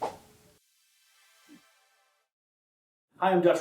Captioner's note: swooooshhh